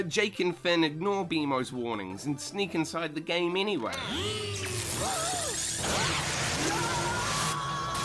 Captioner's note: electric Portal Sounds; digital World Sound Effects